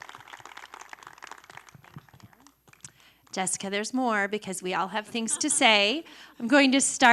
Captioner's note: applause